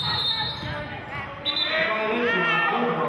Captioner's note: whistling